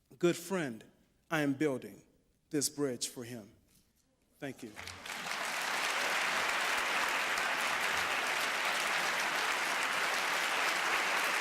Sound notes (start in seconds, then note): 4.6 applause